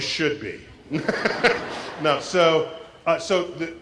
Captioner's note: laugh